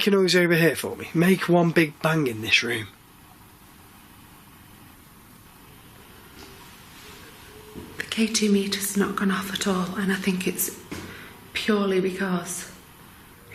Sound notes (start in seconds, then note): none